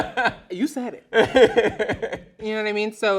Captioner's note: laughs loudly